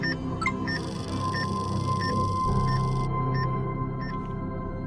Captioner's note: EKG machine beeping; electronic chime; EKG machine beeping